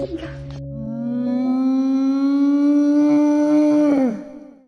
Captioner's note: brontosaurus wail